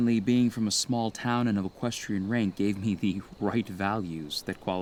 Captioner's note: chuckling